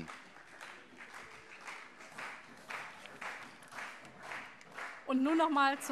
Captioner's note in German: Beifall CDU und vereinzelt SPD